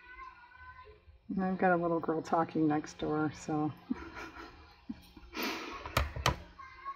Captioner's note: laughs